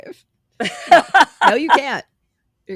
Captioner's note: laughing